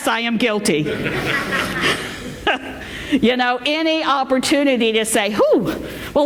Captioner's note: laughter